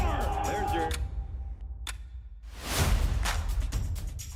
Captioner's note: clock ticking